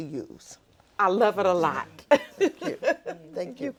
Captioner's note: laughing